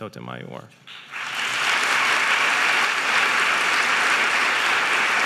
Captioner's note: audience applauding